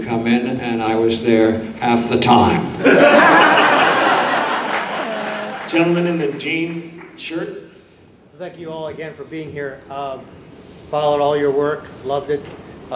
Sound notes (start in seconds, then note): 2.8 audience laughing